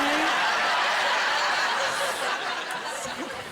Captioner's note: laughter